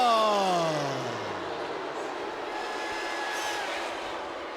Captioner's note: spectators cheering